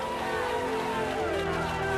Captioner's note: applause